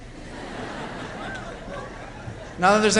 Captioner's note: laughter